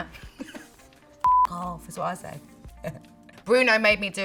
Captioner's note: beep